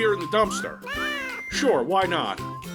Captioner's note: cat noise